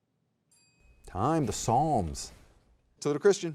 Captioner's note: soft chiming